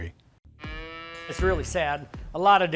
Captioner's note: cow bellowing